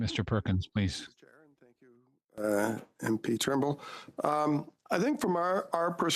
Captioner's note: speaking French